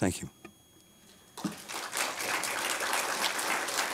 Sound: applause

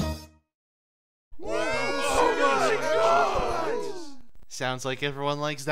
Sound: excited clamoring

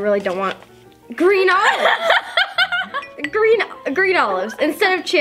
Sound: laughs

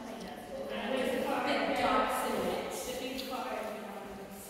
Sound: staff and visitors talking

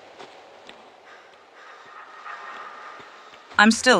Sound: someone is breathing loudly

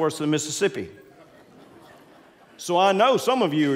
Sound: congregants laughing

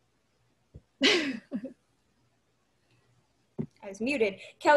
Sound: laughs

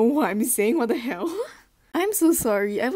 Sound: laughs

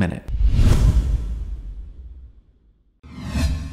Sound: whooshing

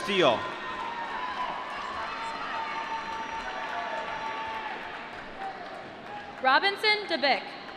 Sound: applause

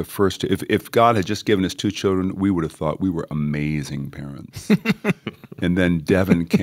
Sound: chuckle

